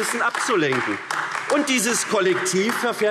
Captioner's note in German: Beifall AfD